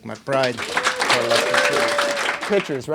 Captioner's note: audience applauds